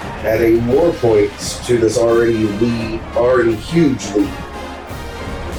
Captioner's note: crowd Noises